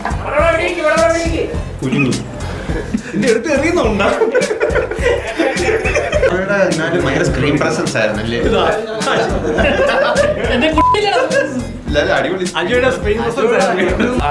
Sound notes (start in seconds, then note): 9.2 laughter